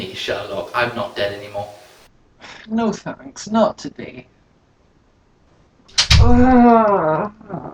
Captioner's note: door slams